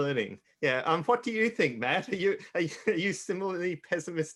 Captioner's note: chuckles